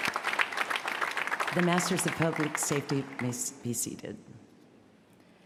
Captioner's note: cheers & applause